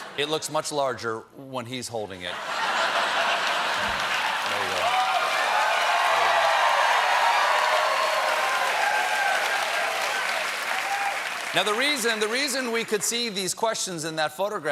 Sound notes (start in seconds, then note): 2.3 laughter; 3.2 applause